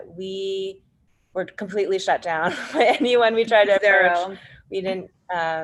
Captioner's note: laughs